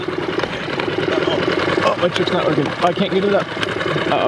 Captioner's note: boat engine sputtering